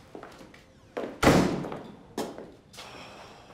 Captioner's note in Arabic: غلق الباب; تنهدات